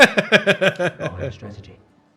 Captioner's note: laughing